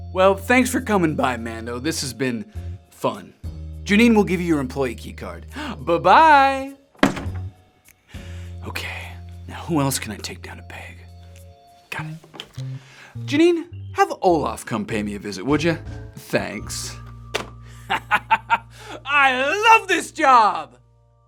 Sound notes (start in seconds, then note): 6.9 door shuts; 17.8 laughs